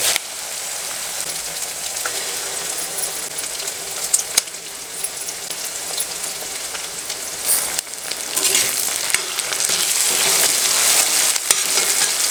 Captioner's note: eggs cracking and scrambling in hot pan